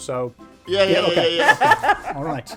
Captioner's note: laughing